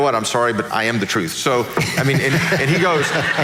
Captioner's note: laughing